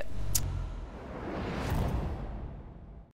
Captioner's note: whoosh